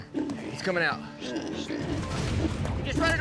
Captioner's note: hog snorting